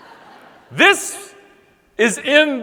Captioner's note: audience laughing